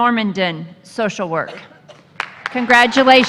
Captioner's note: applause